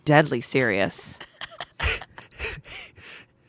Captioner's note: laughing